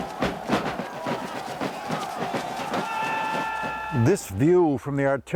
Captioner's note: lively drum music; soldiers shouting